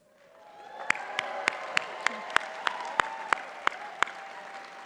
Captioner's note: audience cheers and applauds